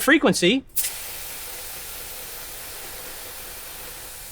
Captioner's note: coils rattle